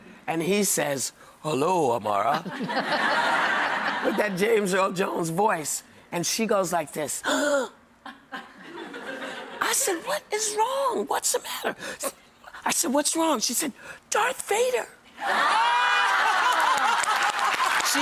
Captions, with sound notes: And he says, (using deep voice) hello Amara. (audience laughing) With that James Earl Jones voice and she goes like this, (gasping) I said what is wrong, what's the matter? I said what's wrong, she said, Darth Vader! (audience laughing)